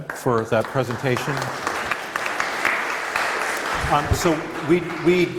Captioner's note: applause